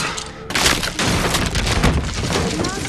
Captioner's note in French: crac !